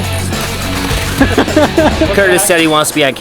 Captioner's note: laughs